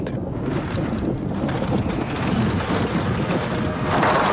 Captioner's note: thunder rumbling